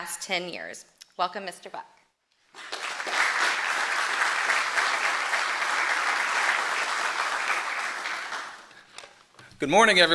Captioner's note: applause